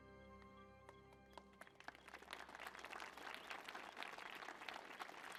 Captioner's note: audience applauding